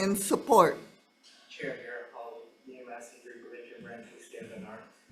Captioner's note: faintly speaking